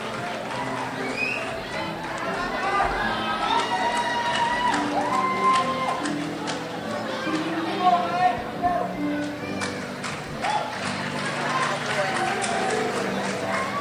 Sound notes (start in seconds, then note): 8.1 crowd shouts; 11.0 crowd applauds